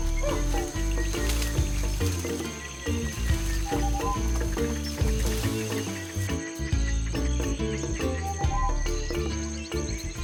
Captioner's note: birds chirping